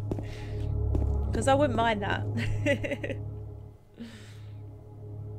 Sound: laughs

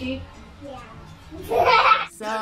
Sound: all laughing; laughter

